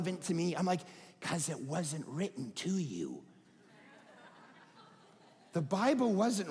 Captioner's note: audience laughing